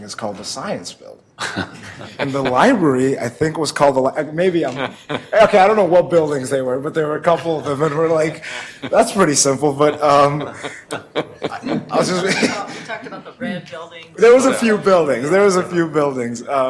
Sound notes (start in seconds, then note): 9.9 laughter